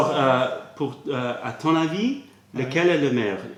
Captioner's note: french